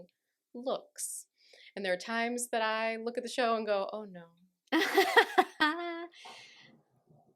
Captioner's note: laughter